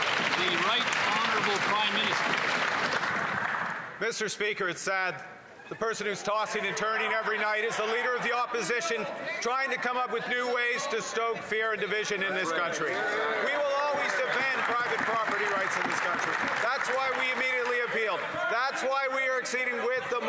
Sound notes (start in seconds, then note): 3.8 some Applause